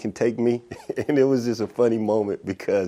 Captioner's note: laughs